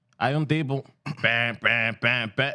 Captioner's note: speaking Spanish